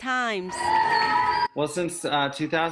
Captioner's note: people applauding